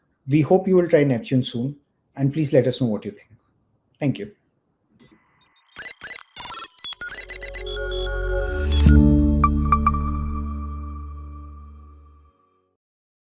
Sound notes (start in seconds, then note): 5.4 robot chittering; 7.3 chittering continues; 7.4 swelling ambient music; 9.0 bright ambient music